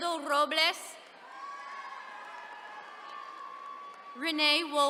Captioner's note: attendees cheering